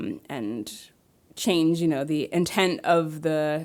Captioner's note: none